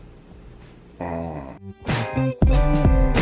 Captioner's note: groans